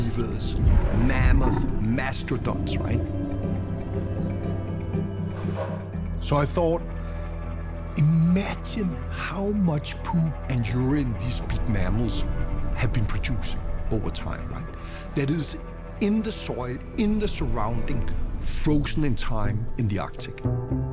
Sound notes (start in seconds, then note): 3.4 animals growling